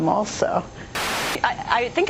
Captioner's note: static